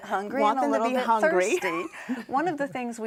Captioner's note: laughs